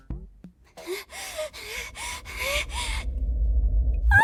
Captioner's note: panting